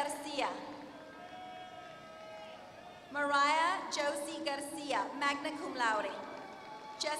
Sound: applause; applause

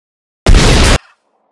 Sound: boom

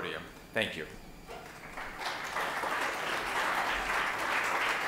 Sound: applause

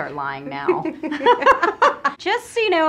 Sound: laughs

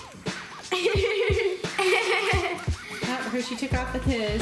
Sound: laughs

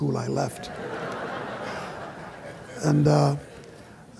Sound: laughter

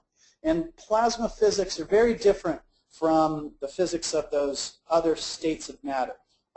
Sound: none

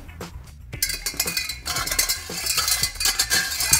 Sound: pot rattling

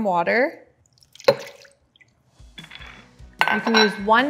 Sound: water pouring

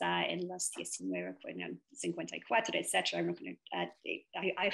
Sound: speaks foreign language

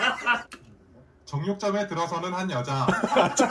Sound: recorded narration

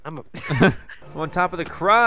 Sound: laughs

